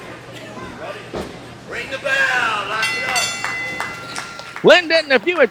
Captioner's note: ringing